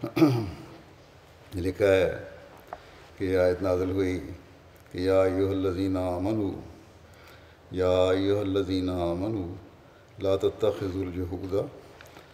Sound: Arabic

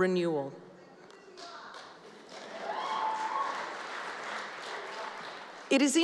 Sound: applause

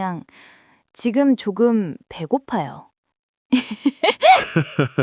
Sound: laughs

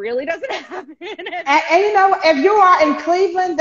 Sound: laughing

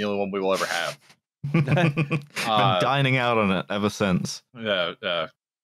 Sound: laughter

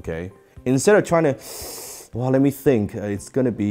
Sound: breathes deeply

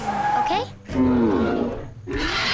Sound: roaring

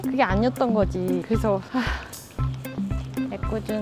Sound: sigh

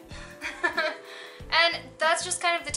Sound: laughs

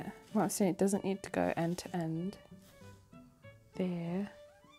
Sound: none

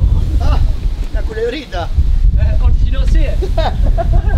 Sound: speaking in Spanish

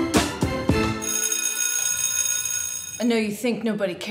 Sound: bell rings

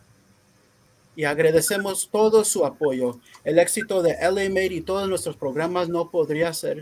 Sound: speaking in foreign language

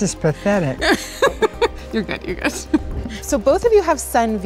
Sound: laughs

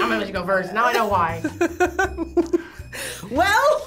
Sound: laughs

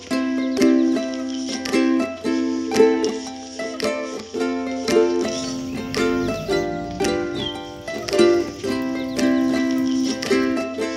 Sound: swimming sound

